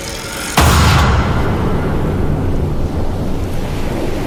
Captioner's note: thwacking